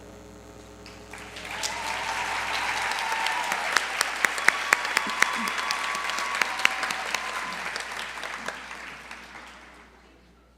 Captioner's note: applause